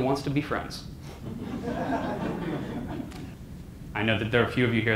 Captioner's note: audience laughter